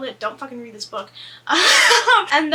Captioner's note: laughs